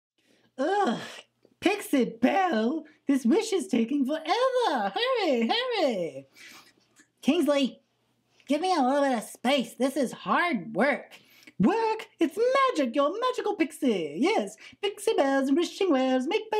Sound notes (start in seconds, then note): none